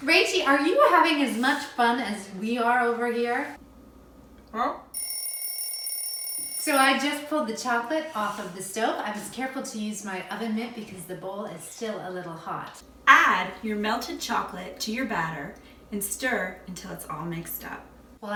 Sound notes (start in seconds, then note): 4.9 alarm clock rings